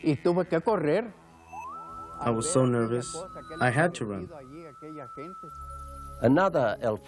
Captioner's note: speaking foreign language